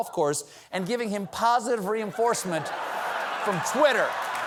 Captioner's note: laughter